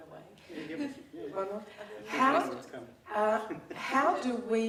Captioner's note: laughing